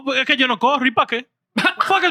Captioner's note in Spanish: Hablando en idioma extranjero